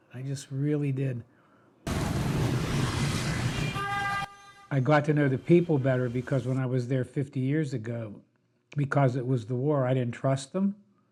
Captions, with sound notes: I just really did. (engines whirring) I got to know the people better because when I was there 50 years ago, because it was the war, I didn't trust them.